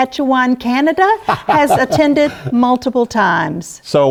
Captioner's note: laughter